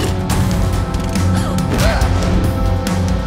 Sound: gasps

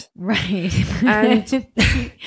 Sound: laughs

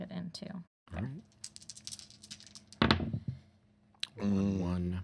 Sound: dice rattling

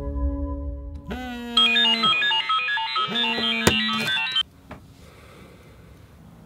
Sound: loud phone alarm

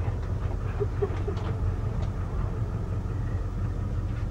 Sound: Chloie sobs

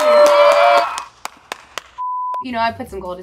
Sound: applauding

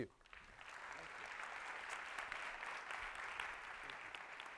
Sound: applause

